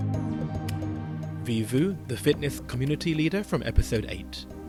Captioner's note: voiceover